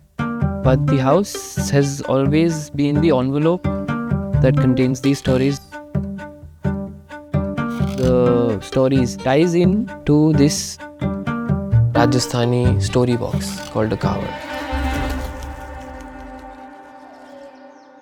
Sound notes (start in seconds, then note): 13.4 bird flattering